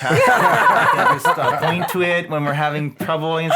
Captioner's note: laughing